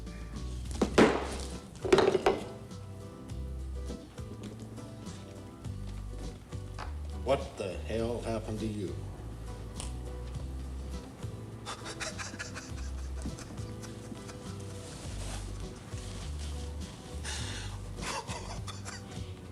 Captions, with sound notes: (bottle banging) - What the hell happened to you? (Mark laughing)